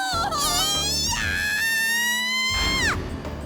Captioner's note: panicked scream